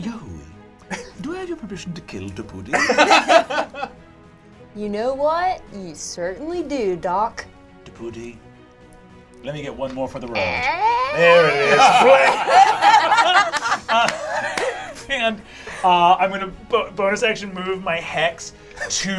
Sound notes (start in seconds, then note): 10.9 imitates creaking; 13.3 all laugh